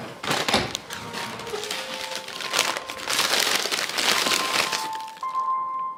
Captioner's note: ruffling of paper sack